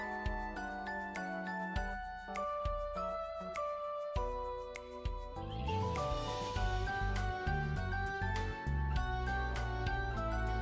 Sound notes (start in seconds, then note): none